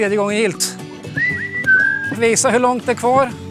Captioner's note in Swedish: visslar